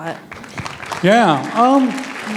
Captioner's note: applause